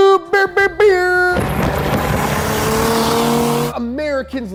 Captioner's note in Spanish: revoluciones del motor